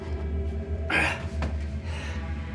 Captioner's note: Ben grunts; tense music